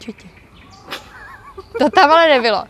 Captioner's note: laughter from behind the camera